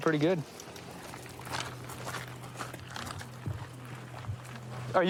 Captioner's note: footsteps crunching